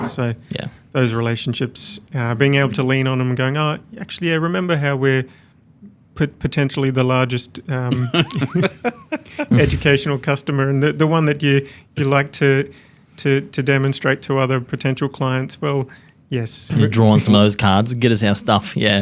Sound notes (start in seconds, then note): 7.9 everybody laughing